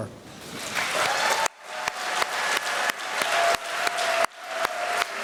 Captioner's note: applause